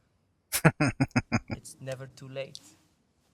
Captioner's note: chuckling